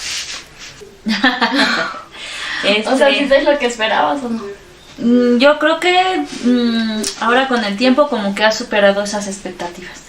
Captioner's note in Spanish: risas